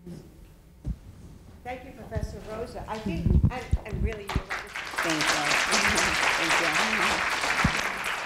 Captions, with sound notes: - Thank you Professor Rosa. I think, I'm really (speaking faintly) (audience applauds) - Thank you, thank you.